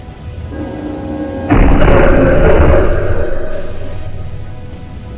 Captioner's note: machinery clanking